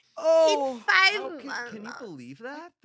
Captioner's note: grumbles